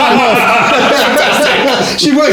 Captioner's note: laughing